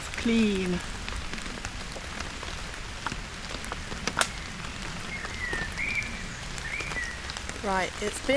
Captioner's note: rain & birdsong